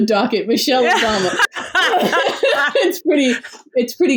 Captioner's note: laughs